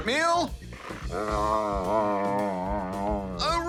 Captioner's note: whines